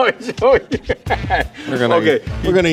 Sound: laughing

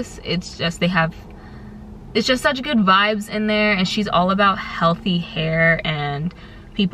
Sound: stuttering

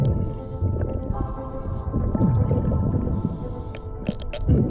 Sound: SCUBA bubbles gurgle

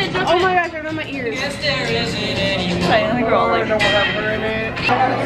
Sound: none

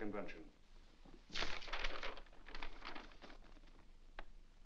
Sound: paper rustles

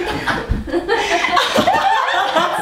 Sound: laughter

